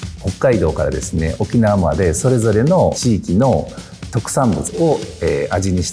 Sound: speaking in foreign language

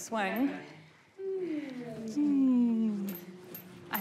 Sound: hums gently

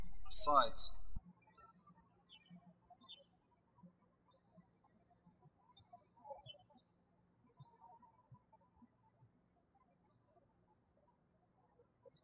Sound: birds chirping

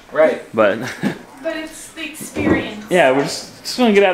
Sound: laughing

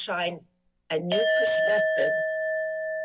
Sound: timer sound

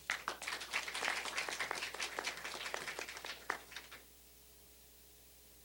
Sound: applause

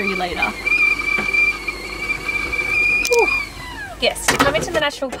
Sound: kettle whistling

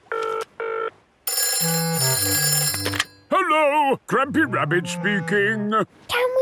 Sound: phone ringing

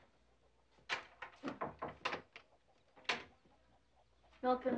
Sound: door closing

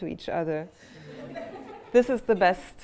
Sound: laughter

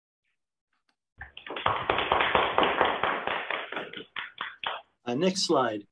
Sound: applause

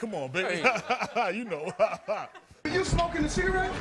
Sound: laughs

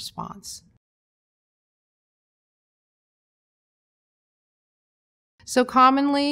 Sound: silence

